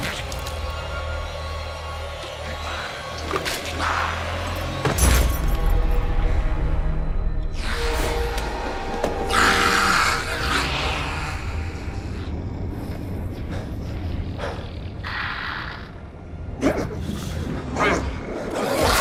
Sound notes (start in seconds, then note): 5.1 body thuds; 9.2 demon screams; 16.7 demon gagging; 18.8 demon retches